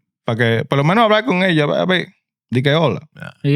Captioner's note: speaking In Foreign Language